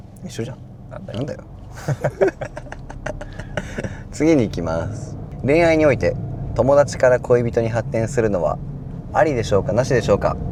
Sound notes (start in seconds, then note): 1.7 laughs